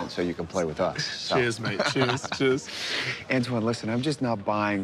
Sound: laughing

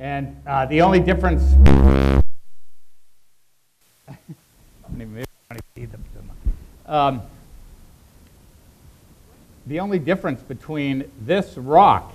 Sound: microphone buzzing

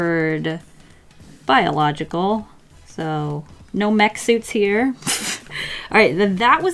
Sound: laughs

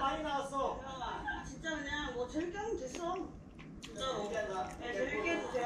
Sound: chewing snacks thoroughly

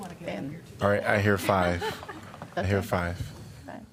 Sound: laughter

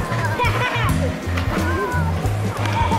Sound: laughter

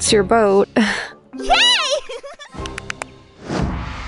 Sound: giggles

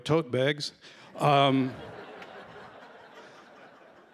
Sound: laughter

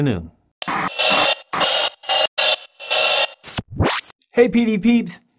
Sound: white noise

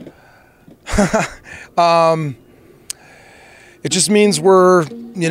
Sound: laughs

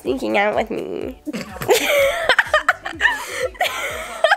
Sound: laughter

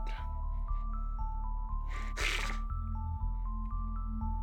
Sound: sniffling

